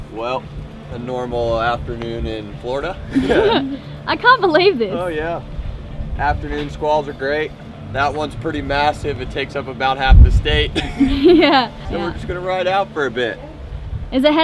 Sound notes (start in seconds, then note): 3.0 all laughing